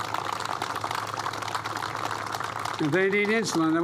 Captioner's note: applause